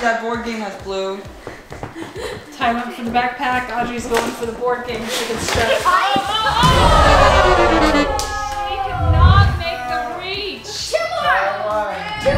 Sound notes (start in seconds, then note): 6.3 everyone exclaims; 6.6 defeated horn plays; 12.1 cheering and applause